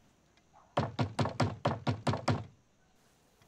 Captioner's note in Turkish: Kapı tıklama sesi